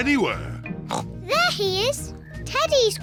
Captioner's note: oinks